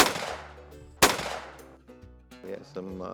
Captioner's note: gunshot